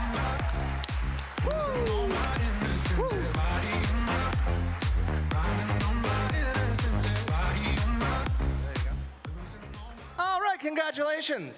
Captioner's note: cheering and Applause